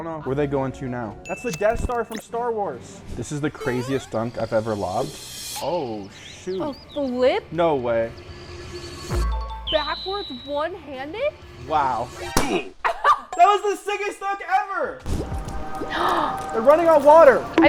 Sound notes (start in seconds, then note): 9.6 tones chiming; 12.3 balloon pops; 12.8 laughs; 15.8 gasps